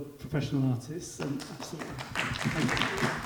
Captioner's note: audience applauding